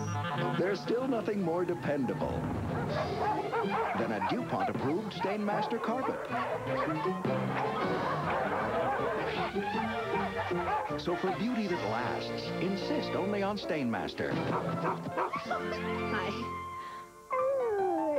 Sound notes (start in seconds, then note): 2.7 dogs excitedly barking; 7.3 barking continues; 14.4 dog barks; 17.3 small dog whines